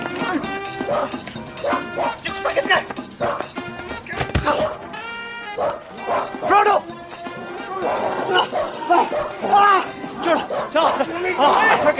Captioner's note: shrieking